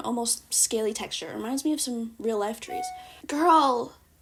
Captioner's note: email notification sound